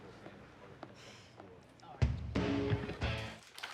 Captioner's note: sighs